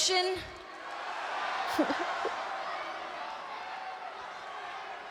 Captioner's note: crows cheering